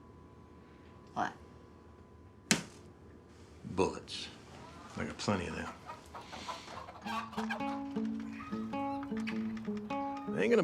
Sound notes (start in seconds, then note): 6.1 chickens squawking and clucking; 7.0 gentle bright music